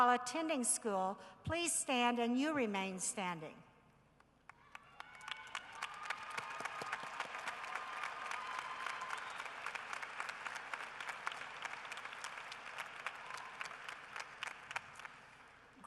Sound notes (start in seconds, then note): 4.5 cheering and applause